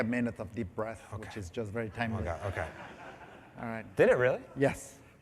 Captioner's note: laughter